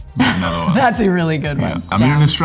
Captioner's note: laughs